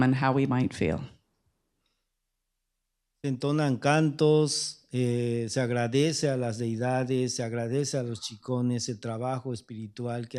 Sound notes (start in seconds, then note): 4.4 speaking spanish